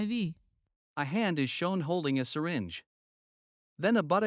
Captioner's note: voiceover